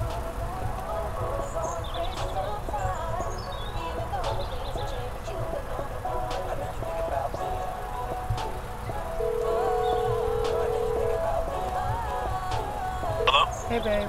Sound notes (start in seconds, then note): 9.2 phone dialing